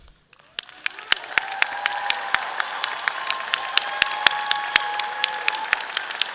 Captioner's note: audience applauding; clapping